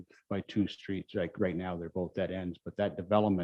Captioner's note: murmurs